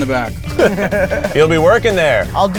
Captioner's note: laugh